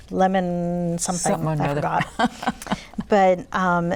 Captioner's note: laughter